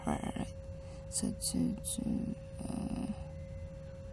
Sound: mumbles

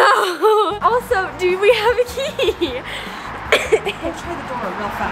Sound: lightly coughs

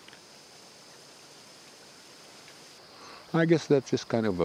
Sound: river water flowing

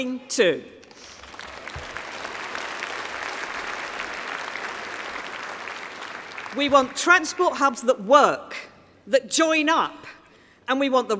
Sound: applause

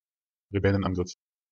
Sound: fast Pronunciation

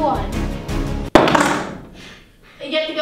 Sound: dramatic music; banging

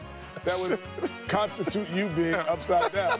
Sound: laughter

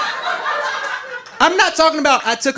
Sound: audience laughing

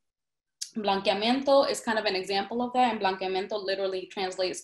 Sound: speaks in Spanish

